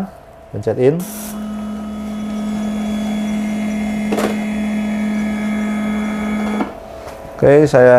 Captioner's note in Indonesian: suara mesin printer